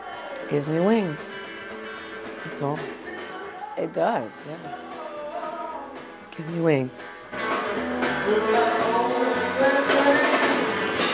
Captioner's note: laugh